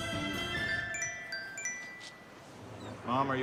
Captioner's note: phone ringing